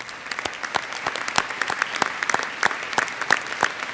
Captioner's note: audience applauds